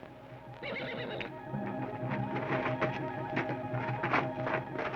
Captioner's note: horse whinnies